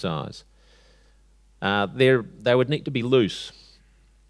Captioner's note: none